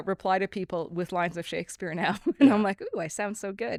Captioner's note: laughs